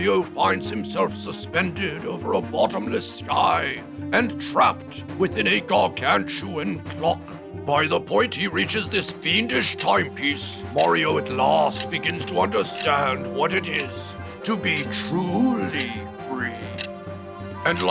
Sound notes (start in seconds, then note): 8.6 ticking